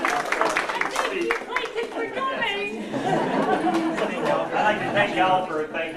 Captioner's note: crowd applause; crowd laughter